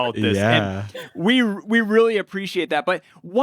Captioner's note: laughs